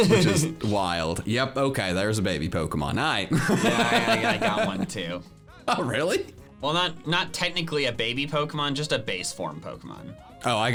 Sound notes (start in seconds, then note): 3.3 laughing